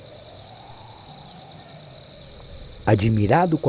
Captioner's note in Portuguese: Vento suave